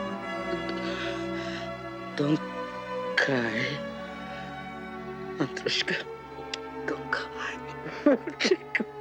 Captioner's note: russian; sobs